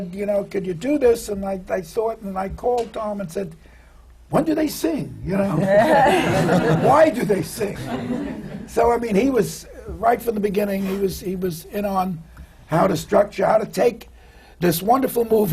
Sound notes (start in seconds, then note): 5.5 laughter